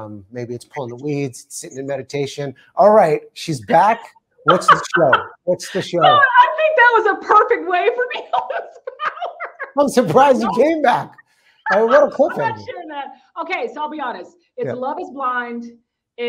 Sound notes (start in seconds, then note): 8.3 laughing